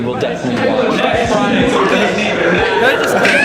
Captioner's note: snaps; laughs